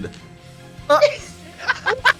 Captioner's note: Guaxi laughs